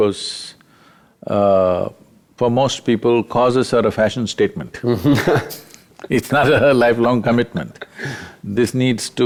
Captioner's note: both Laugh